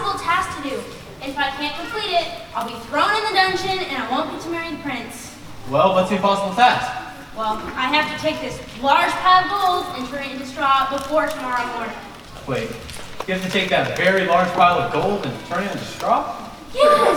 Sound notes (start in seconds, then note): none